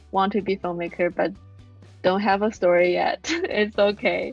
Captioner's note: chuckles